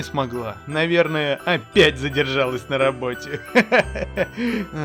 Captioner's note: laugh